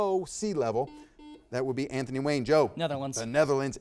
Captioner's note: buzzer beeping